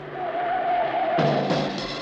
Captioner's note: car engine roaring; tires screeching; fast tempo jazz music